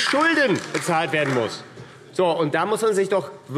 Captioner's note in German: Beifall AfD